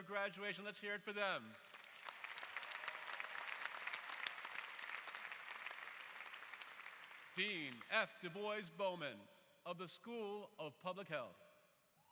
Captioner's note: applause